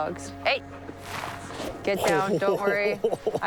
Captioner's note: laughs